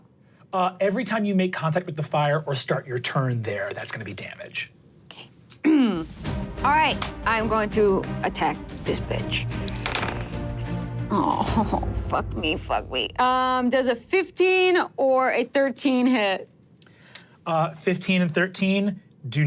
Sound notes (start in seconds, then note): 5.6 clears throat; 6.1 dramatic upbeat music; 9.7 dice rolling